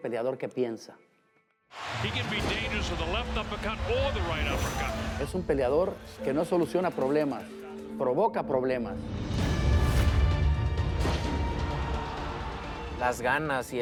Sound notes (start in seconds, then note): 1.7 speaking Spanish